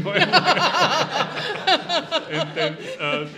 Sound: all laughing

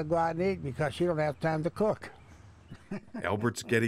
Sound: chuckling

